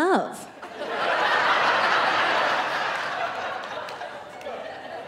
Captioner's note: audience laughing